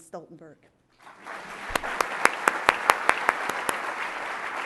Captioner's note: applause